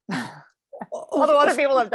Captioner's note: laughs